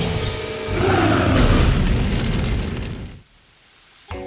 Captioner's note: roars